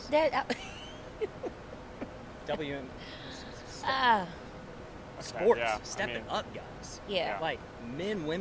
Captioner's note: laughing